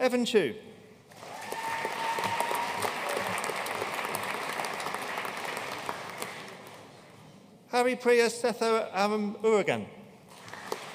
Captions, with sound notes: Evan Chou. (AUDIENCE CHEERING AND APPLAUDING) Haripriya Sethuramamurugan.